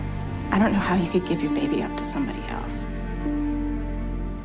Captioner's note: voiceover